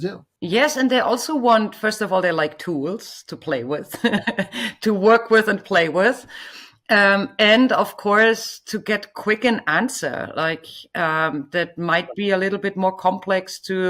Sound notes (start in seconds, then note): 3.9 chuckles